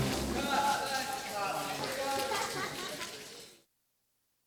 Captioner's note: laughter